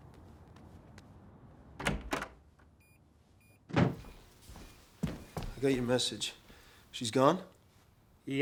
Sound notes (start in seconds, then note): 1.8 door opens; 2.0 alarm system beeps